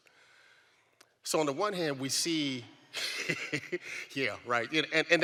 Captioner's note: laughs